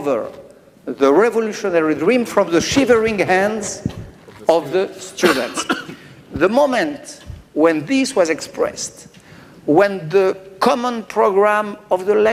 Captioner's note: speaking french